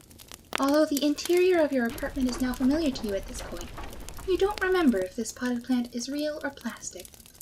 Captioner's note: sound of explisions, fire, and debris falling from outside